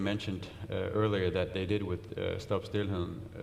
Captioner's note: speaks in foreign language